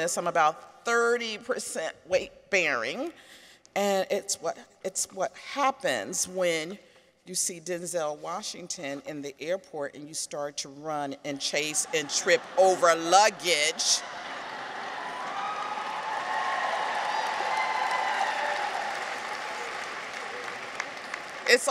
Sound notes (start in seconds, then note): 14.2 audience laughs; 16.5 audience applauds; 16.5 people cheer